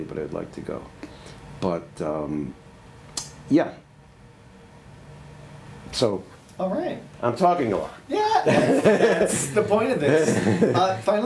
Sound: laughter

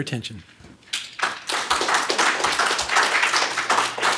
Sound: applause

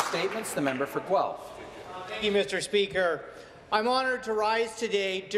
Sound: some applause

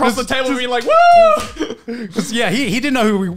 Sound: cheers

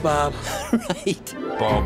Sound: laughing

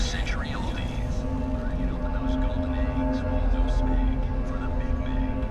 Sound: radio fades

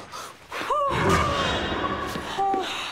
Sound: gasps

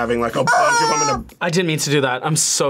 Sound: chicken squeals

